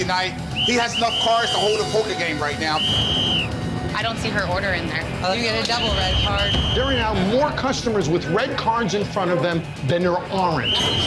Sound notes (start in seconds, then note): 2.7 whistling; 5.7 whistling; 10.4 whistle